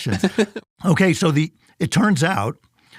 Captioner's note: laughs